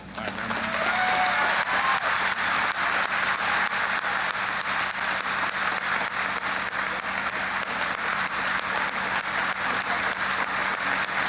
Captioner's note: applause